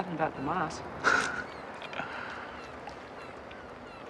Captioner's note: laughing